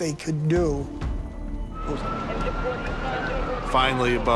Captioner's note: sirens and radio chatter